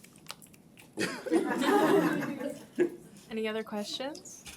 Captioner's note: laughing